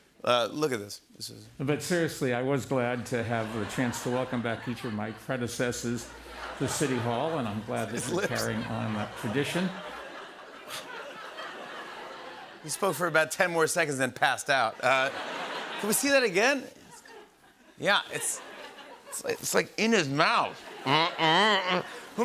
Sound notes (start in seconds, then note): 10.2 laughter